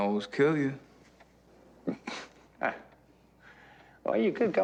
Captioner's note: laughs nervously